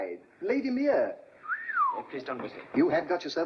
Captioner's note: whistles